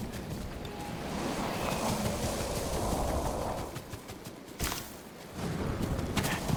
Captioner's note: thunder rumbling